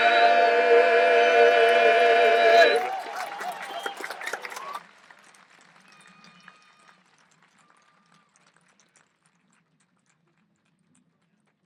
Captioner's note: applause